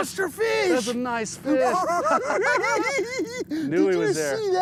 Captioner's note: giggling